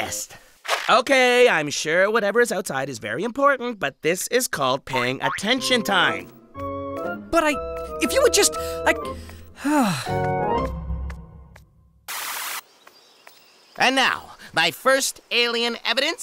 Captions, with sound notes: Okay, I'm sure whatever is outside is very important, but this is called paying attention time. But, i... If you would just... I... [ sigh ] And now... My first alien evidence: